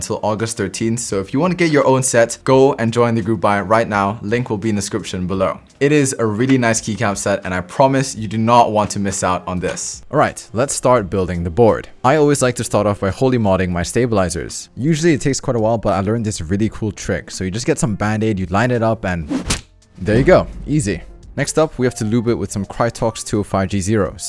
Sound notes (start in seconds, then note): 19.2 slaps